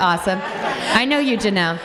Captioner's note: everyone laughs